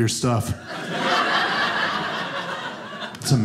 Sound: audience laughing

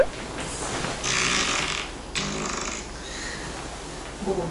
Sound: fart♥

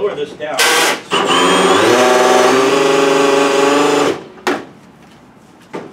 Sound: drill noises

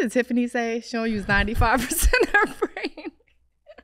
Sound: laughing

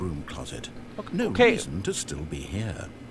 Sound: laughs

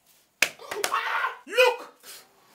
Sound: screaming

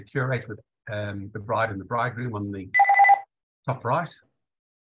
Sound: ringtone

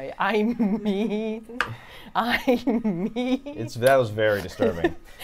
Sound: laughs

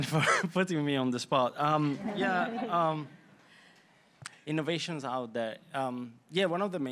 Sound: laughter

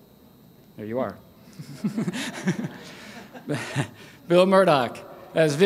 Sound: laughs

